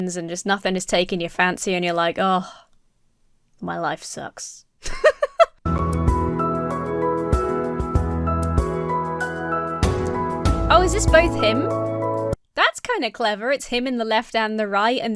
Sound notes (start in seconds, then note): 2.1 sighs; 4.8 laughs; 5.6 uplifting music